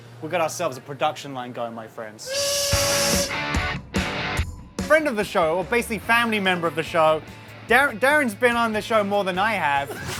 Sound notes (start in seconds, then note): 2.2 train whistle blowing; 2.7 fast rock music